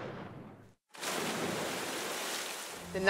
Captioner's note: gun shots; splashing